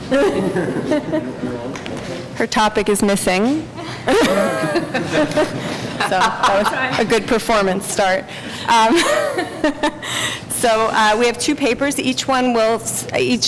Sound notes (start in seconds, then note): 3.8 laughter